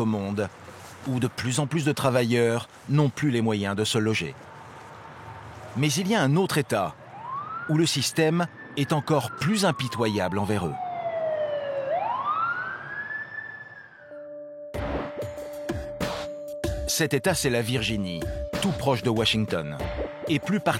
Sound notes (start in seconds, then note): 10.5 siren blaring